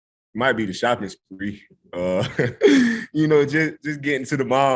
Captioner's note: laughs